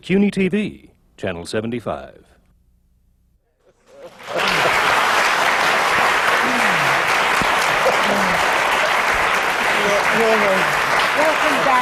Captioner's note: applause